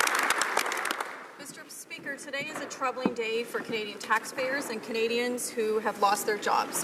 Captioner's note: some Applause